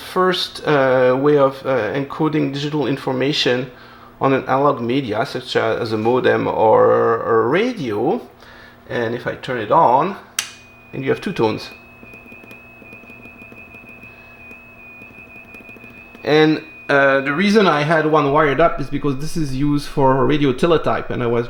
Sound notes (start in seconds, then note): 12.8 alternating high and low tones